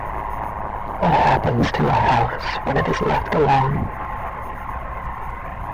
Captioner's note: female voice